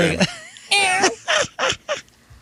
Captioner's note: laughing